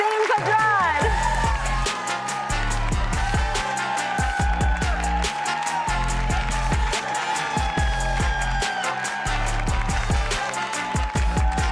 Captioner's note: applause